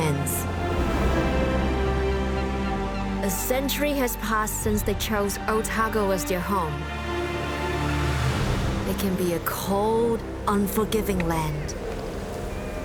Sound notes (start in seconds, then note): 2.0 bird squawks